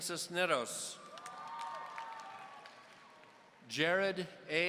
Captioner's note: audience cheering